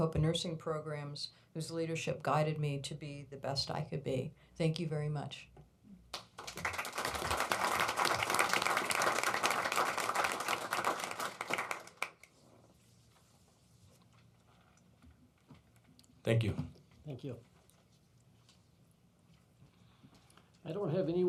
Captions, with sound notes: AND MARICOPA NURSING PROGRAMS, WHOSE LEADERSHIP GUIDED ME TO BE THE BEST I COULD BE. THANK YOU VERY MUCH. (APPLAUSE) THANK YOU. THANK YOU.